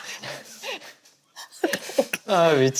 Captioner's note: everyone laughs out loud at her realistic reenactment